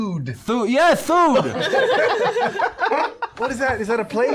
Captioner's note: slurred; laughter